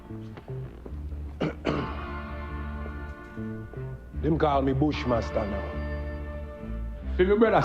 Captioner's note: clears throat